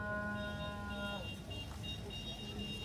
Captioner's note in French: Klaxon qui ressemble à une vache qui meugle